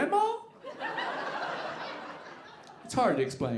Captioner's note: audience laughing